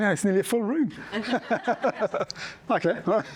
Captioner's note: laughter